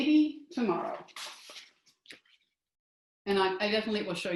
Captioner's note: rustling